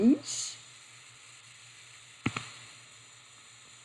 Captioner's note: silence